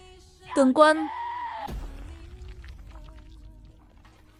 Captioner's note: screaming